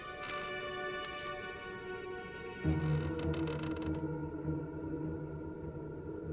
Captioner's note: door creaks open; wind howls